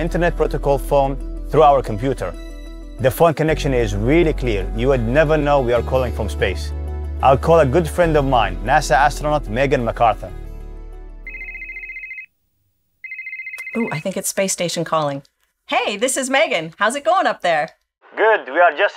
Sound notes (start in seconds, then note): 11.2 phone ringing